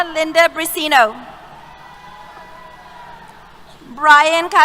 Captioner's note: cheers